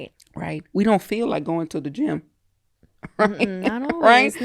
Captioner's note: laughs